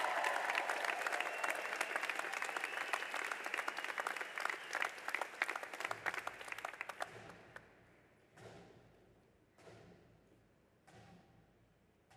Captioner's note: applause